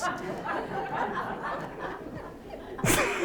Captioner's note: laughter